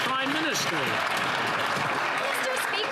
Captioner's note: applause